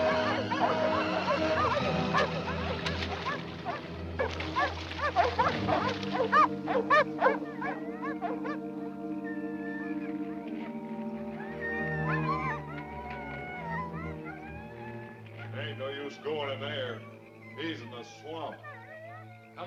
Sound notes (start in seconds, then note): 1.8 dogs barking continues; 1.8 dramatic music continues; 9.7 dogs whining; 9.7 gentle music